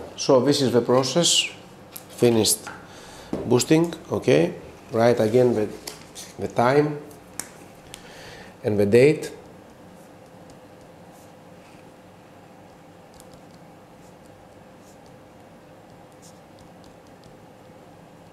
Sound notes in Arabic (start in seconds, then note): 15.1 بدون صوت